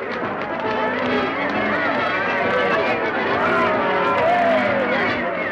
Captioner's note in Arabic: يستمر الهتاف